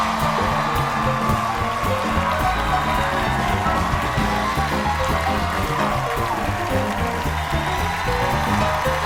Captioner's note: cheers and applause